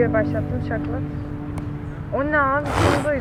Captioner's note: snaps finger